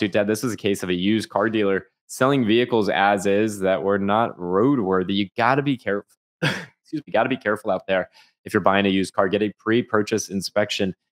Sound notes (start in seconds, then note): 6.4 cough